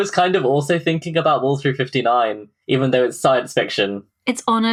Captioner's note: laughs